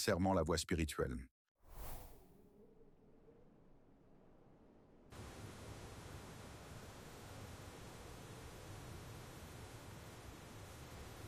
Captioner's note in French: bruit du vent